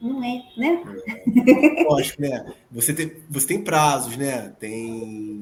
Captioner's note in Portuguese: risos